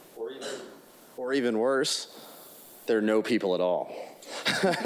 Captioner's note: laughs